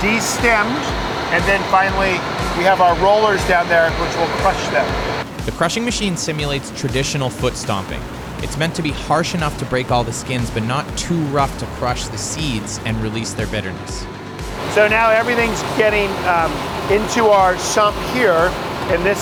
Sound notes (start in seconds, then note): 0.3 upbeat music; 4.9 grapes sloshing; 13.6 machine buzzing